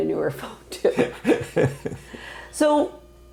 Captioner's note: laughing